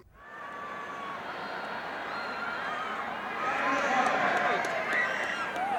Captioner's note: crowd chattering